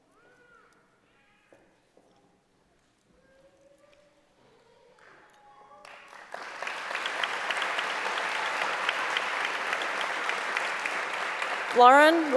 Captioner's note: applause